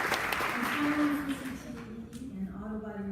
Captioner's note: applause